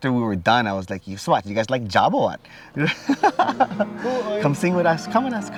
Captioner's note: speaking in Hawaiian language